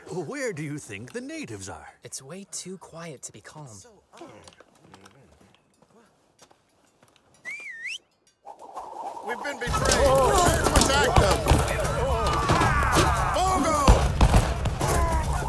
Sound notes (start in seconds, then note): 3.9 soldiers mutter; 7.4 he whistles; 14.5 gunshots